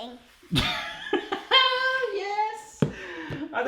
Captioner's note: laughs